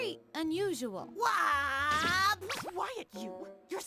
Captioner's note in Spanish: emocionado